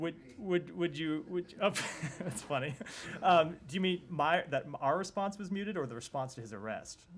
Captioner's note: laughter